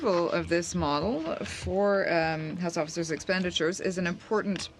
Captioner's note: speaking French